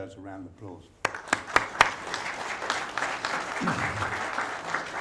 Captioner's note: crowd applauding